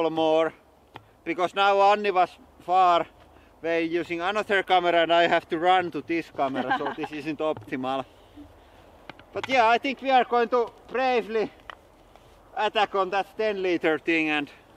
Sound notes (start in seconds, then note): 6.4 laughs